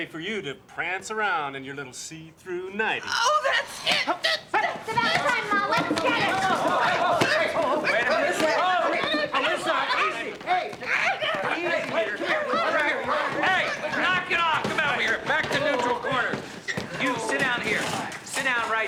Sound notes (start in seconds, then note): 12.8 overlapping chatter